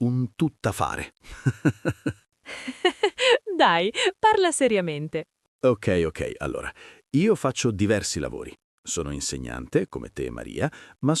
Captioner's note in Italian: risate